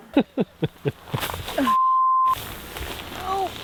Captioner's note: chuckles; beep